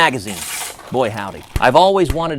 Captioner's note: water pistol squirts and hits backdrop